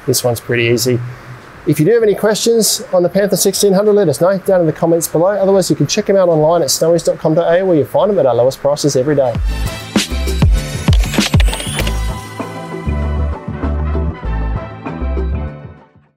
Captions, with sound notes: This one's pretty easy. If you do have any questions on the Panther 1600, let us know down to the comments below. Otherwise you can check it out online at snowys.com.au where you find 'em at our lowest prices every day. (upbeat music) (keyboard typing) (upbeat music continues)